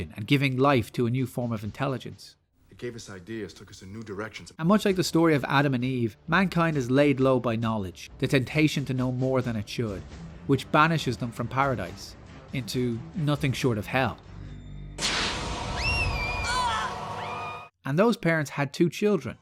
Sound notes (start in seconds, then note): 15.0 blast; 15.7 children screaming